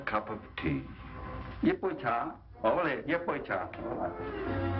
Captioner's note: speaks in Chinese